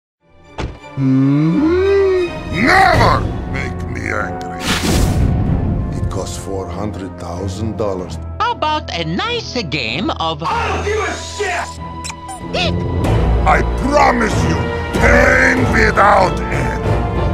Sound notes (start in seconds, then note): 11.9 rubber Duckie Sound Again